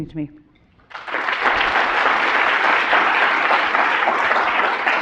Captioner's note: audience clapping